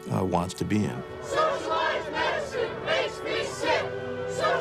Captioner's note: chanting